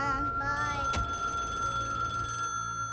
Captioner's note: phone rings